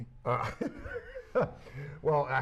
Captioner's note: laughter